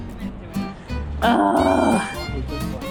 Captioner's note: grumbles